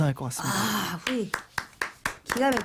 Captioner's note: claps